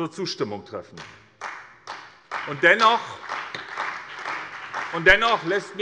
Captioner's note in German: Beifall bei der CDU und dem BÜNDNIS 90/DIE GRÜNEN